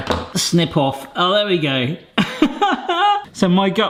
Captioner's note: laughing